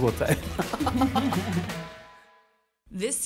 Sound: laughs

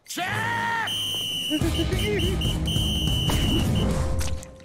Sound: whistle blowing; laughing, whistle blowing

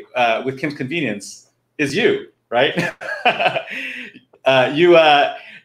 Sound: laughing

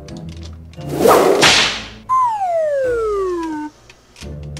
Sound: whip cracks

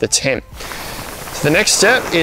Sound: fabric rattling

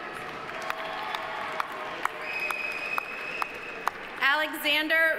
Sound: audience applauding; audience cheering

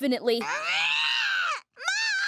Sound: screaming

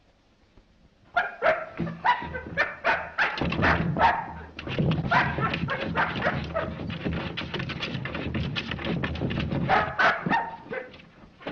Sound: dog barks loudly

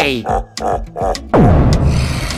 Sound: Bowser laugh

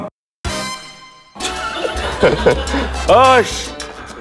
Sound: laughing

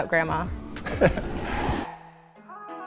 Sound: laughs; chill music playing

